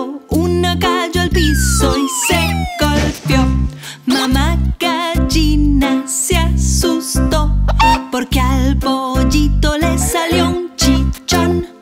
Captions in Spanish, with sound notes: Uno cayó al piso y se golpeo Mamá gallina se asusto (Sonido de gallina) Porque al pollito le salió un chichón